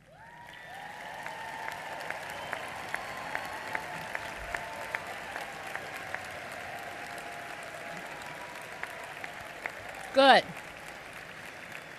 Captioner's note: applause